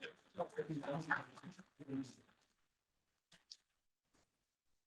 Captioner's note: chatter